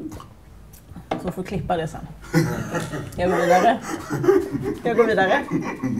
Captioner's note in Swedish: Skratt